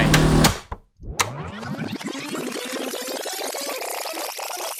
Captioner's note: video tape whirring